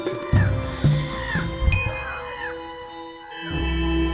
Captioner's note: birds squawk